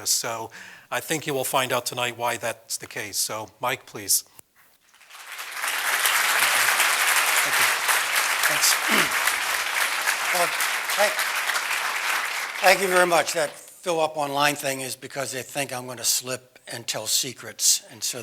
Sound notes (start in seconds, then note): 5.9 applause; 8.6 cough; 9.6 applause